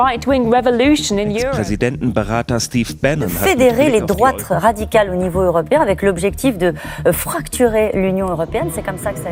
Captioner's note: news presenter voice